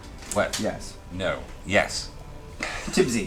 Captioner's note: laughs